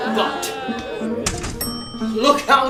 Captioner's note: elevator ding